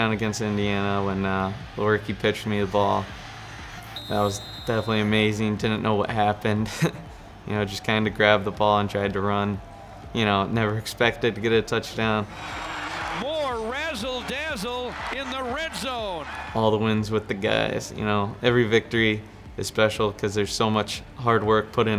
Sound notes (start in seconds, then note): 6.6 laughs; 12.5 crowd cheering